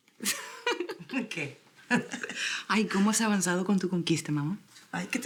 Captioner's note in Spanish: Risas